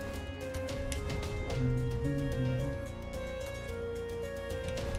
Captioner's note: humming along